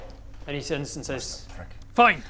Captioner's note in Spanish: Bob susurra